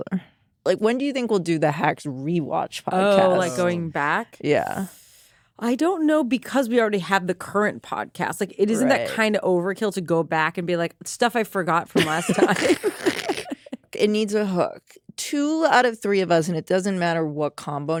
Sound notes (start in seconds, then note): 11.9 laughter